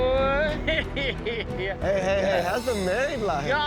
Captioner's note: chuckling